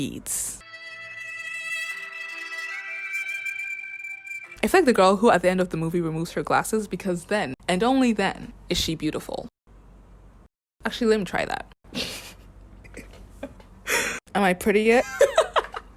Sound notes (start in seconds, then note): 0.6 sad violin music plays; 12.8 giggles mischievously